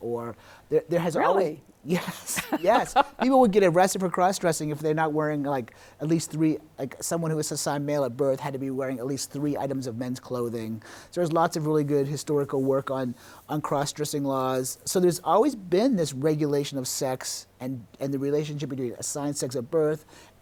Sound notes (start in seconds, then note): 1.9 laughing; 1.9 chuckles